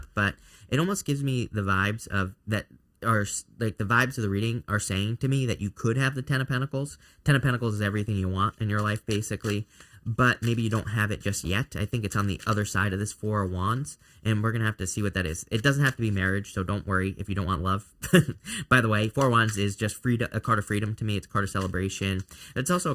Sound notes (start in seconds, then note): 7.9 cards shuffling; 18.0 chuckling